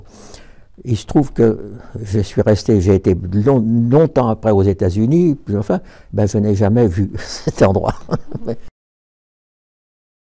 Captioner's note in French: rire